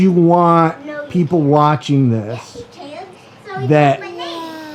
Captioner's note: toddlers babbling